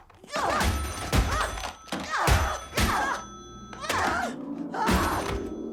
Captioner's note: ringer bangs; telephone wallops